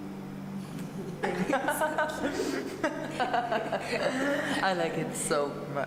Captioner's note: laughter